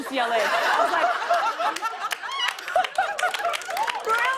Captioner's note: laughter and applause